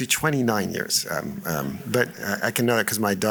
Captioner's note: laughter